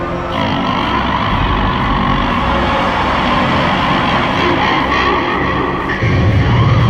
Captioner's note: deep demonic laughter